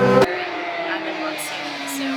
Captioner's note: motorcycle revving